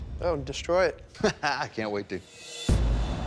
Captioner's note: laughs; dramatic music